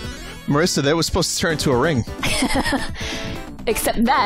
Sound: laughs

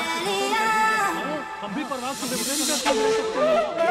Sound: chattering

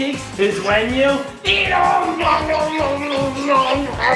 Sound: children laughing a giggling loudly

